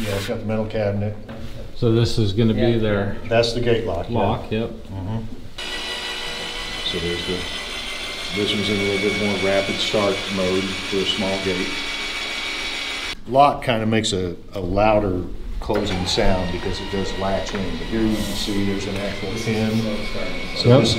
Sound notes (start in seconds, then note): 5.6 gate mechanism whirring